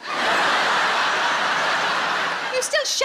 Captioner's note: audience laughing